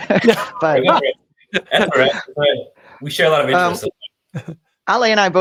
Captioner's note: laughs